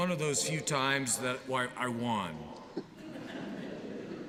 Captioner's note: laughter